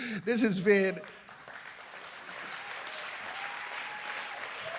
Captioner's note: applause